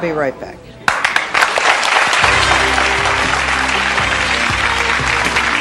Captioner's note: audience applauding